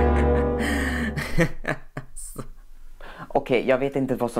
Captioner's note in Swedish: Små skrattar